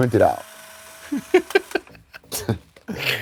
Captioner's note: giggles; scoffs